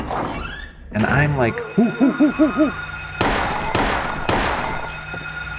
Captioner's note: terrified owl noises